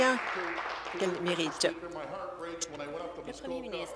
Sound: applause

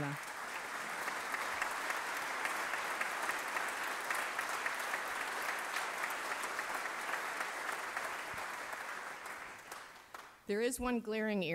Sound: applause

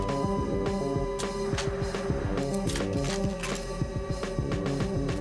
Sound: Combine flat line beeping; gun clicking

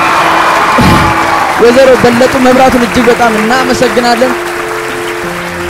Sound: scream and applause

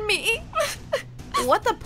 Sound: crying

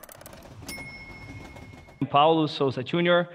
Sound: chiming music; bell dings

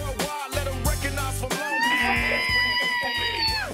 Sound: squealing

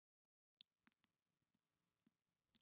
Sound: blood dripping

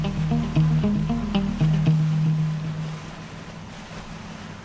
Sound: water sloshing

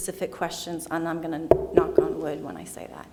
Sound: knocking the podium

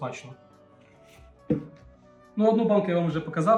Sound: bottle sounds

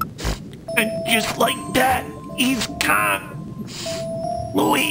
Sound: sniff

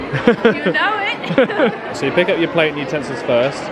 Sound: both laugh

